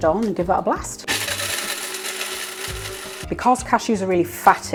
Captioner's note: grinder whirring